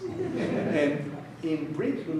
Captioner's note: audience laughing